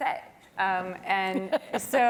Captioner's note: laugh